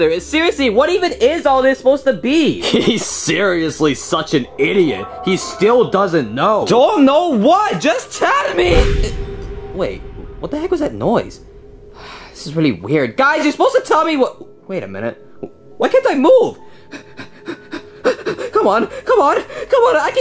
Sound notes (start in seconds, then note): 9.0 ominous music; 16.7 panting